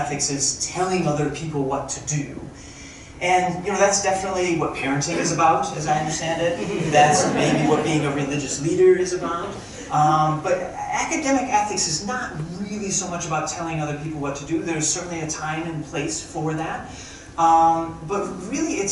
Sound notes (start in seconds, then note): 6.4 crowd chucking